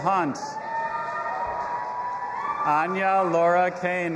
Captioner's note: audience applauding and cheering